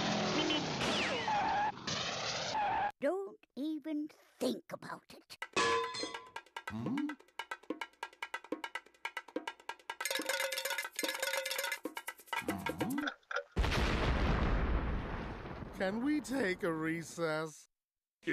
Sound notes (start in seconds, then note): 0.1 breaks screeching; 5.5 clanging; 10.0 clinking; 12.2 clock ticking